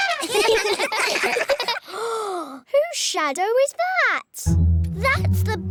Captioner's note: all giggle; gasps